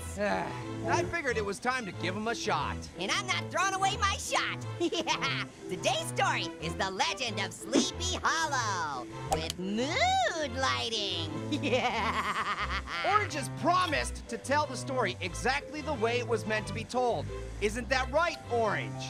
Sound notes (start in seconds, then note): 5.7 Orange laughs